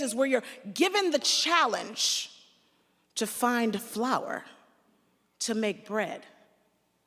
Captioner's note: none